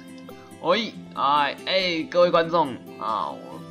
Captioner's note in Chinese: 意義不明的叫聲